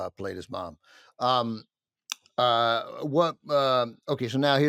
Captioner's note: stutters